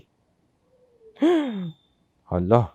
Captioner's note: gasps